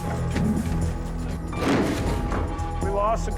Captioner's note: crack